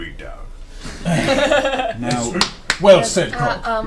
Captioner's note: all laugh